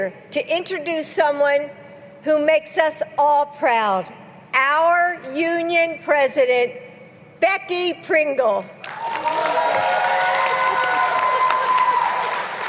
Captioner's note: applause